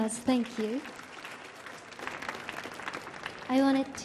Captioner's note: audience cheering